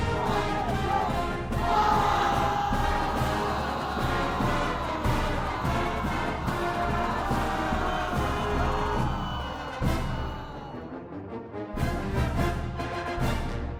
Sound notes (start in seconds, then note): 1.9 band music continuing; 1.9 crowd cheering; 9.8 dramatic marching band music